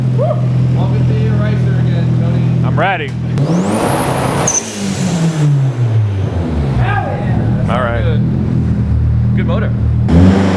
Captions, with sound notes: - Welcome to being a ricer again, Tony. - I'm ready. (engine revving) - Hell yeah. - All right. - Good motor.